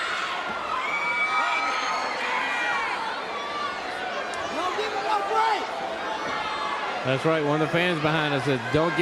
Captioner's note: crowd cheering